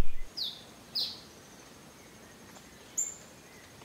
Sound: birds tweeting

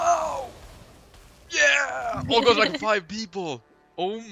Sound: haha

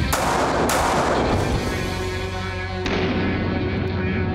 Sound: gunshots

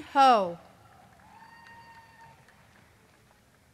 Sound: applause; cheering

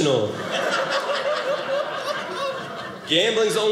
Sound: audience laughing

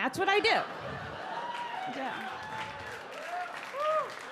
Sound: audience clap

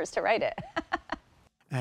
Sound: laughter

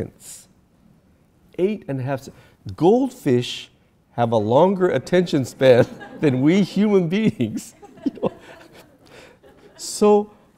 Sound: audience laughter

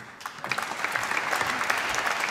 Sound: applause

